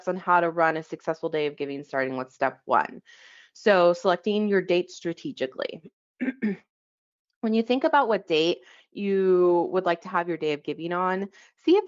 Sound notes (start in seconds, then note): 6.2 clears throat